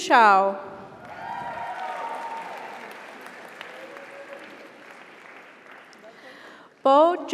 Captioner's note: audience cheers; audience applauds